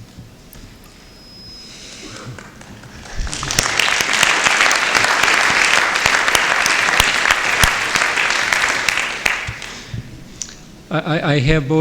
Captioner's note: applause